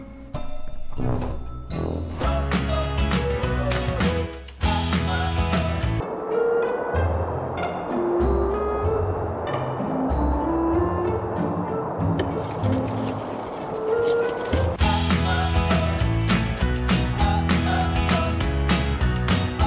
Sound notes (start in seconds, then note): 6.1 wind blowing; 6.5 playful music; 12.3 scraping on windshield